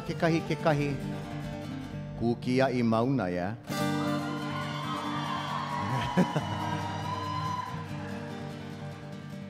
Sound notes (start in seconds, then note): 0.1 speaking in Hawaiian; 4.0 audience cheering